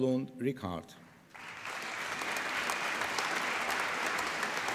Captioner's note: applause